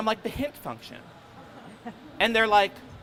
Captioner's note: crowd laughing